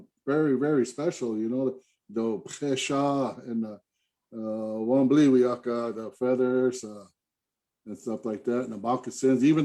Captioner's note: speaks a native american language